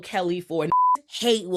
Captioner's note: beep